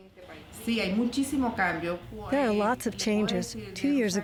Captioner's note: through translator